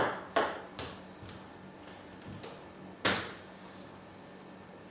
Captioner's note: balls ping pong hitting continues